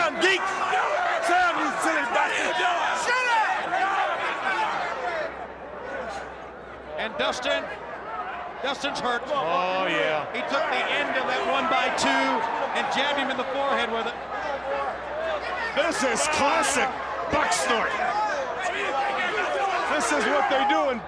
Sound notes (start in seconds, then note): 2.4 crowd chatter